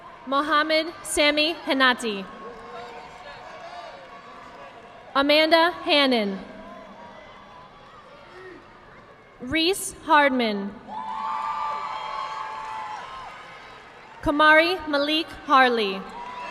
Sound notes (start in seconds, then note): 0.0 audience clapping; 2.4 audience clapping; 7.0 audience clapping; 11.0 audience applauding